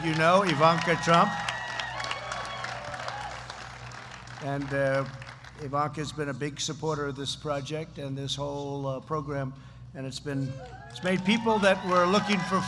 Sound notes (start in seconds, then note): 4.7 applause